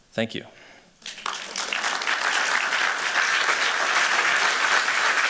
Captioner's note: applause